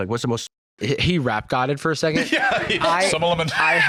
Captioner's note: laughing